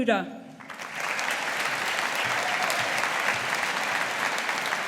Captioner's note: audience applauding